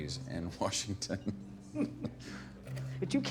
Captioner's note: both laughing